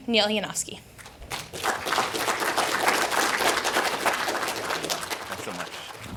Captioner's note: audience applauding